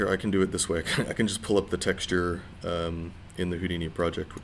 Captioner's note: chuckling